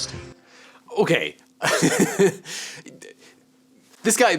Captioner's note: laughs